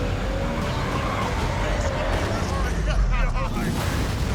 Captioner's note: dramatic music continues; brakes screeching